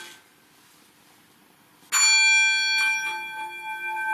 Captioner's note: ringing; clear resonating ringing